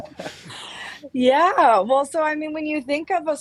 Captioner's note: laughter